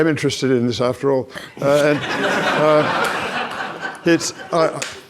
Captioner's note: audience laughs